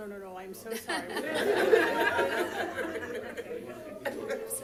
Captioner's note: laughter